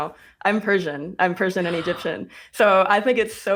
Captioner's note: gasps